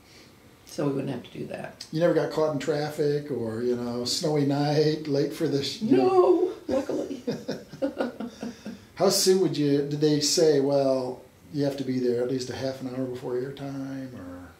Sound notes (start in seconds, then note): 6.4 laughs